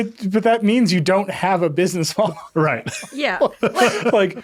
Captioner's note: laughing